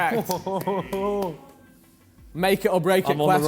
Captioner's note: contestant clapping